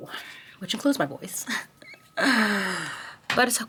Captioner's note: chuckles